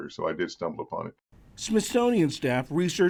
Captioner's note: voice-over